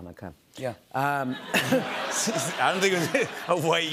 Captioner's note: laughter